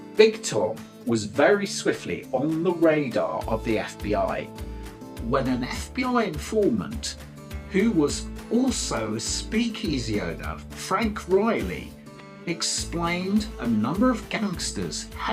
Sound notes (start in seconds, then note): none